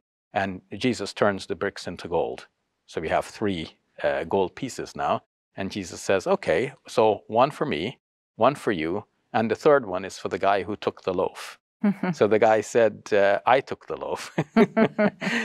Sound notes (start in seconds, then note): 11.7 chuckles; 14.2 both chuckling